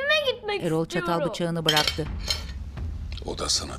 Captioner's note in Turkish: Çatal sesi